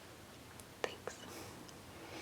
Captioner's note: whispered